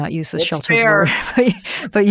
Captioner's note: laughs